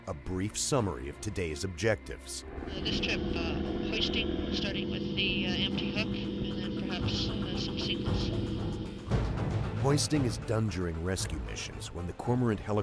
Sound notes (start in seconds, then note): 4.7 voiceover